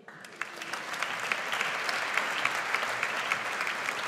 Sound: audience applauds

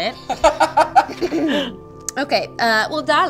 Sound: laughter

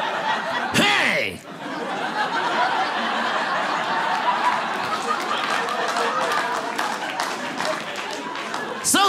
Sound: audience laughing

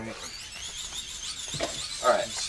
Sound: lamp whirring

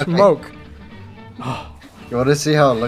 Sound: sigh of relief

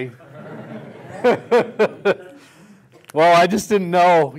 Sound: laughter

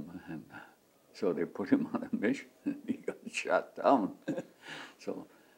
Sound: laughs

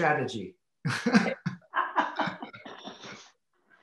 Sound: laughs

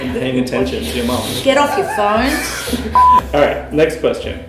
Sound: laughter

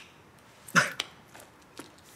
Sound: laughs

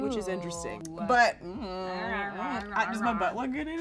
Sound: flirtatious cooing

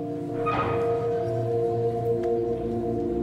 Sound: door opens

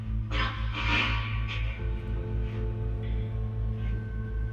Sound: radio noise hissing

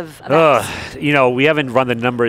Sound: grunts loudly

